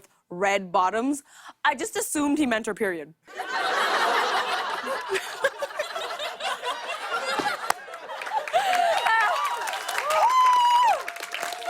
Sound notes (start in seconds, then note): 3.3 laughter; 7.4 cheers and applause